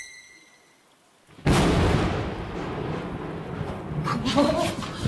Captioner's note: loud clap of thunder